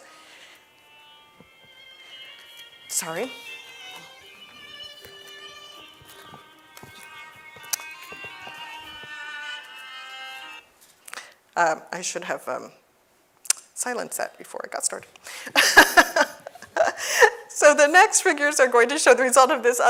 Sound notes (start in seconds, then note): 1.3 gentle classical music; 3.9 gentle classical music continues; 15.5 laughs